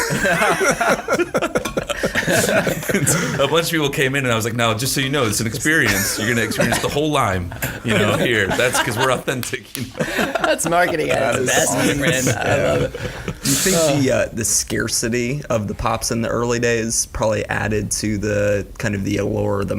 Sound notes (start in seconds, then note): 0.0 all laughing loudly; 10.1 laughs